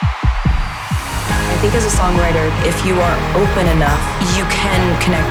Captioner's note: cheering